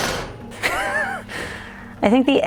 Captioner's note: laughs